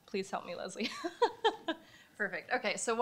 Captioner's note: laughs